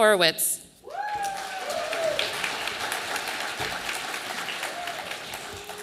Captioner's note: audience applauding